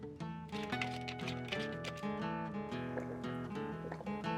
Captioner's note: bottle cap clatters; Tania gulping